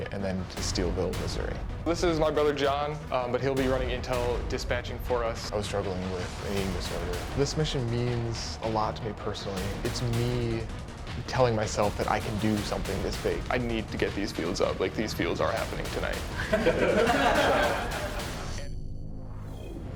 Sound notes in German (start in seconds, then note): 16.3 Gelächter